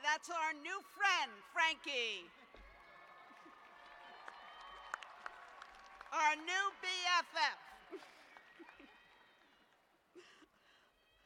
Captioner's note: cheers and applause